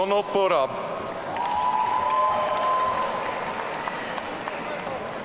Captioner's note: audience cheering